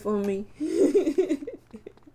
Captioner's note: laughter